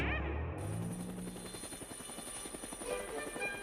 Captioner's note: whirring